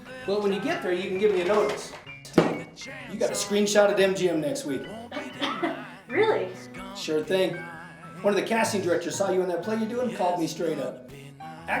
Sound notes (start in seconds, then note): 5.0 chuckles